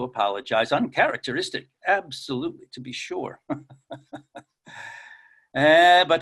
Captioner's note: laughs